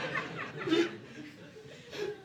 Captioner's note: audience laughing